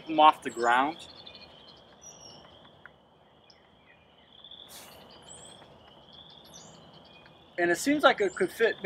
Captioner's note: frog and bird calls in background